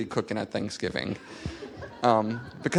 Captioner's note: laughter